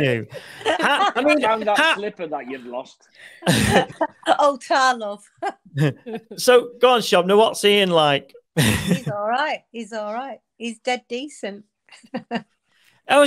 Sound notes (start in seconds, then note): 3.4 group laughing; 5.7 laughs; 12.0 laughs